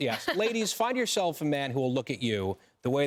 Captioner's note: laughter